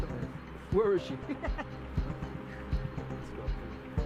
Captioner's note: Argento laughs